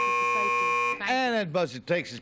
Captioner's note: buzzer